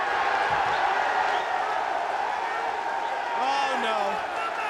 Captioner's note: crowd cheers